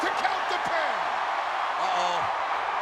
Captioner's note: crowd cheers